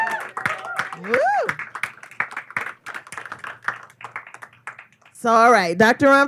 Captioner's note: clapping, cheers